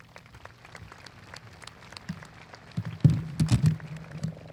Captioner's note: audience applauding